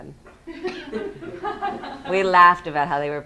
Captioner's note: students laughing